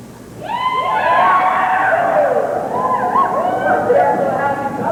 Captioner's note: whooping, cheering